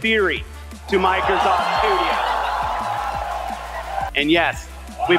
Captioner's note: audience cheers